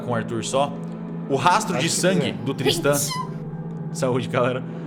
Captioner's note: Kalera sneezes